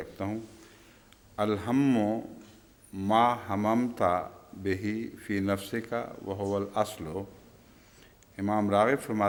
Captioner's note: Arabic